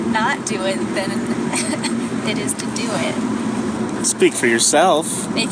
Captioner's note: laughs